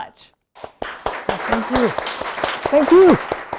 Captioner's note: audience applauding